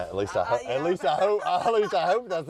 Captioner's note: laughs